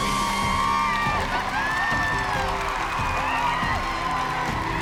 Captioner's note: cheering